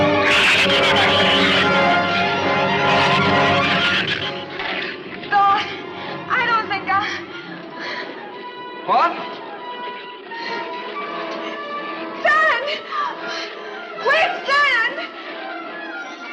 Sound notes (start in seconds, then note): 0.1 shrews screech; 12.8 gasps